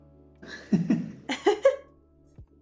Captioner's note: laughing